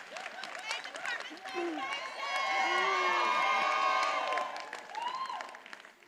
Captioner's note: attendees applauding and cheering